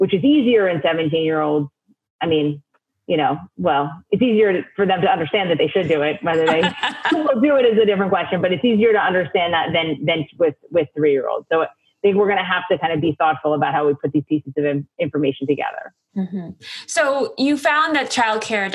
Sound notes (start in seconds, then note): 6.3 laughs